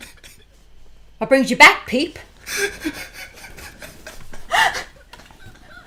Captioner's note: laughter